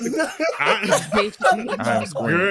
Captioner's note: laughter